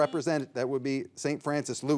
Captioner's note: signal beeps